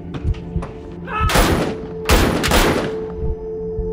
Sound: dramatic music; gunshots

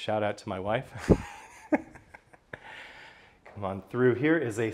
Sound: laughs

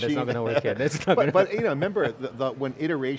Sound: laughs

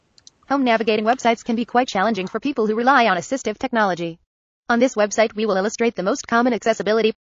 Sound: ChromeVox reads text

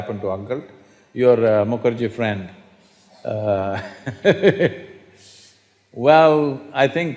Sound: laughs

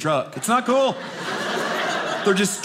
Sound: audience laughing

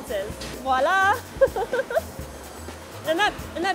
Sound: laughs

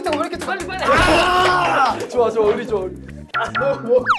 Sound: screams of happiness

